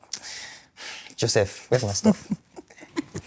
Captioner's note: laughs